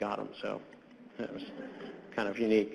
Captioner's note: scattered laughter